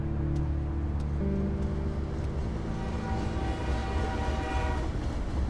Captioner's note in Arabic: صافرة القطار تنطلق